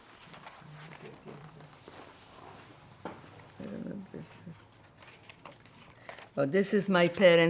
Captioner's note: mumbling